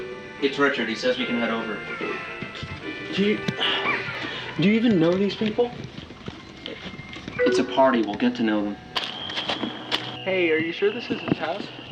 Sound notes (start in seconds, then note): 8.9 walking sounds